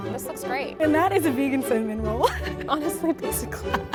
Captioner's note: giggles; laughs